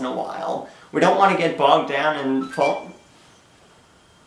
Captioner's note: X-Box One console ignition tone